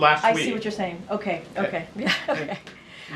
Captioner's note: laughs